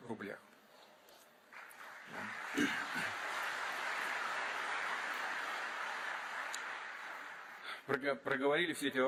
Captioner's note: applause